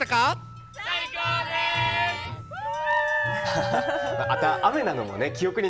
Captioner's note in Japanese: 叫び声